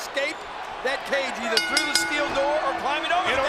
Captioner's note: bell dings